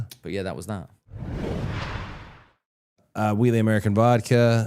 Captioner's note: graphic whooshing